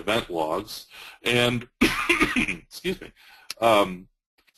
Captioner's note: coughing